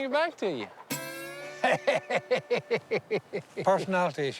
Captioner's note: laughing